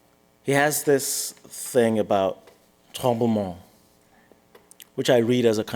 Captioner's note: french